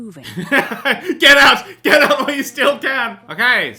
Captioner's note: laughs